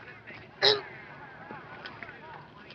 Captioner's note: grunts